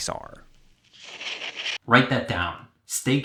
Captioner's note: fire crackling